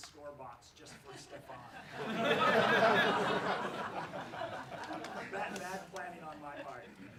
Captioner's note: laughs